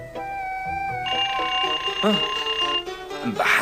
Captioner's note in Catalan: Sona el timbre